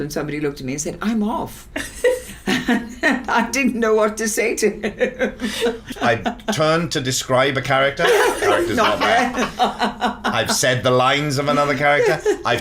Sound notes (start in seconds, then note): 5.0 laughs; 8.0 Siân, Kezrena and Kate laughing